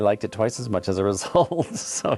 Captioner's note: chuckles softly